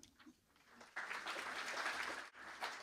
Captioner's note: applause